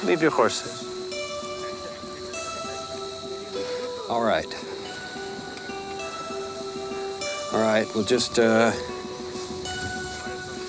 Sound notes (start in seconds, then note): 1.6 gang members chuckle